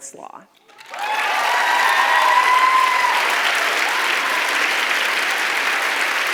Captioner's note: audience applauds and claps